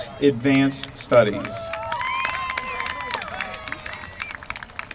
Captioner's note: applause